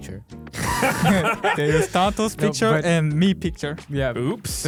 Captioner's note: laughing